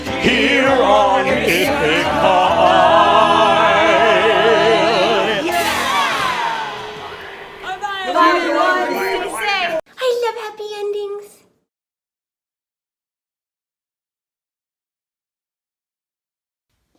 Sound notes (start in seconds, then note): 0.0 singing; 7.5 chatter